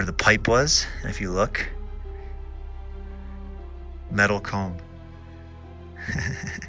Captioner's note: chuckling